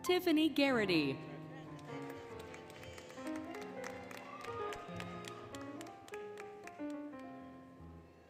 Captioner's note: applause, Cheering, Music